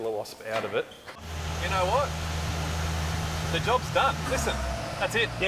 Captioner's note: engine running